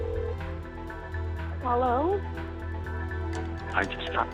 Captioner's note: on phone